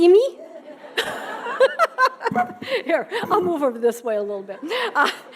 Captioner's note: laughing